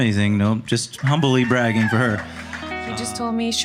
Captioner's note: audience cheering